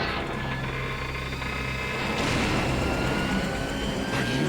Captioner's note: stealthy chopper noises